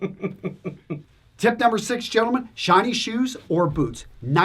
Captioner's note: laughs